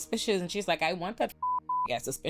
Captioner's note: beep